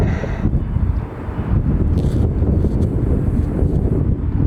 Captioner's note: wind blowing